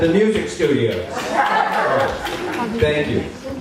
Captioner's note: applause